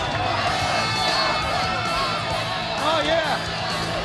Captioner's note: crowd chatter